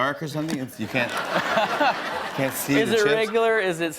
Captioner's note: laughter